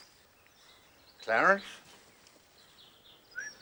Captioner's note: whistles